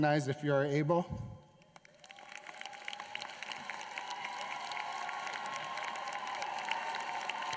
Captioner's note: applause